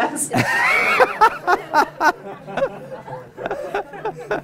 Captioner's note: laughter